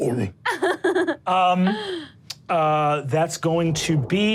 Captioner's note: Sofia laughs